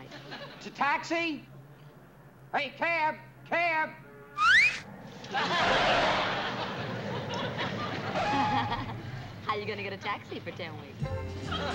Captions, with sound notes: Taxi! Hey, cab! Cab! (whistles) (laughs) How are ya gonna get a taxi for 10 weeks?